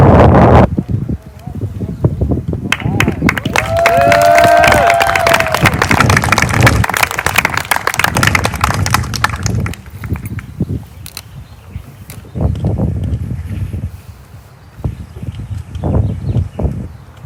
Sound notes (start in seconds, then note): 2.6 applause